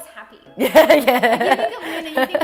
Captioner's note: laughing